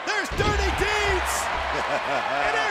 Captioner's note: laugh